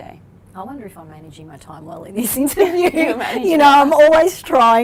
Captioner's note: laughs